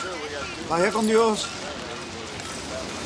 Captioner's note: Crecencio speaks Spanish